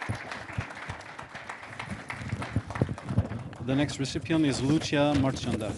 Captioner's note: applause